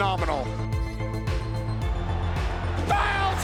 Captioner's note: applause